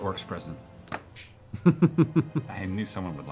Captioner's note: laughs